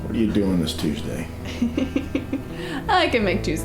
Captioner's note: woman giggles